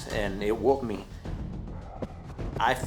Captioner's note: breathing heavily